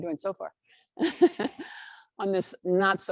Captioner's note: laughs